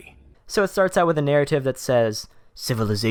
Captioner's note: voiceover